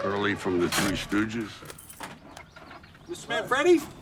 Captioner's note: gear shifting